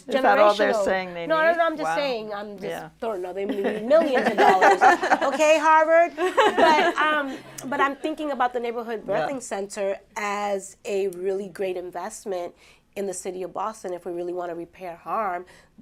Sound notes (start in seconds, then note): 6.1 laughter